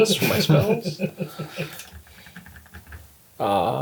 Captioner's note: all laugh